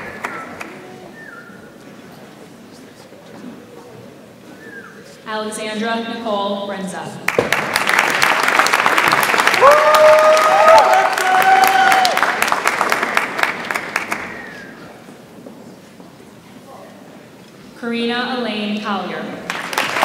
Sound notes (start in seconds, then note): 7.3 audience applauds and cheers; 19.4 audience applauds